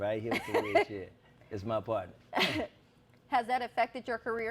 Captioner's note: laughs